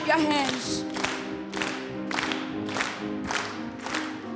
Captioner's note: choir and audience clapping; uptempo music